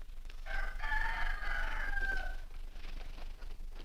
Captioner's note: rooster Crows